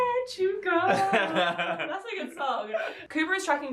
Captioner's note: laughs